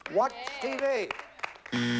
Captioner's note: buzzer